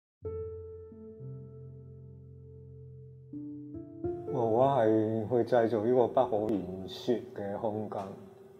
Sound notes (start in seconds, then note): 0.2 contemplative piano music begins; 4.8 Cantonese